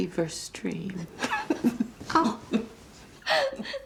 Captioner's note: both laughing